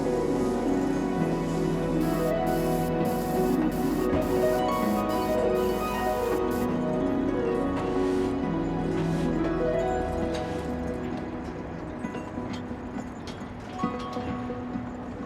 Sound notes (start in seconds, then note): 0.1 paint compressor spraying